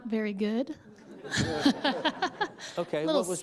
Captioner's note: laughter